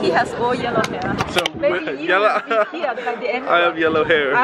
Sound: laughs

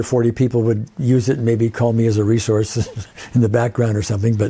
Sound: chuckles

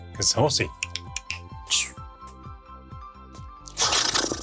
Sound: snorting

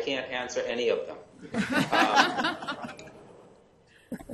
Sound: laughing

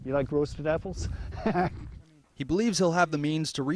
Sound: chuckles

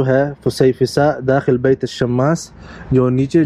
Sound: Arabic

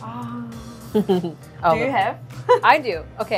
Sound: giggles

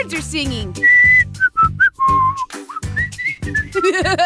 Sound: whistles; laughs

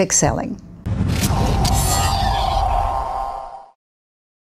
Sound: whooshing

